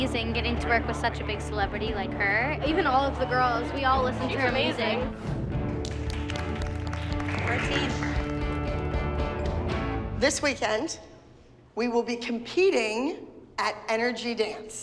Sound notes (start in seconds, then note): 5.8 clapping